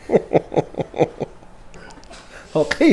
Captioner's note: sniggering; laughing; sniggers